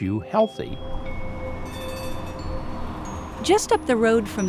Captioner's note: bell rings